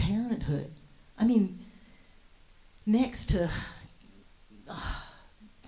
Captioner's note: sighs